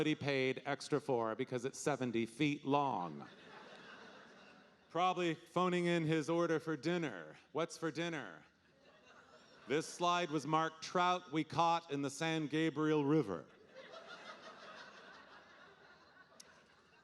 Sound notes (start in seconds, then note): 3.1 audience laughing; 13.5 audience laughing